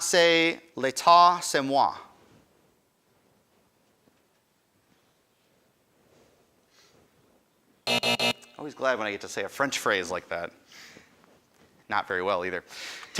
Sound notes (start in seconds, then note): 0.2 speaks in foreign language; 7.8 end time buzzer rings